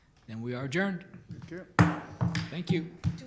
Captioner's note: gavel bangs